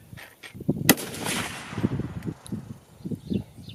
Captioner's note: gun fires